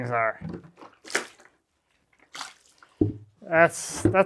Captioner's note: water splashing